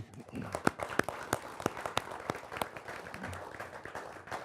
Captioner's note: applauding